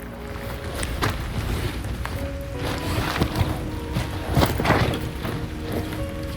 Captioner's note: rustling sound